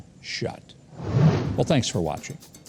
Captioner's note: whooshing